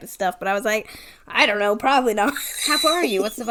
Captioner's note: wheeze laughs